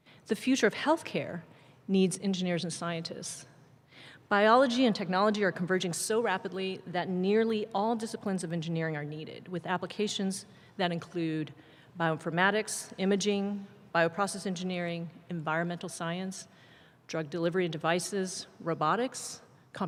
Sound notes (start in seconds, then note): none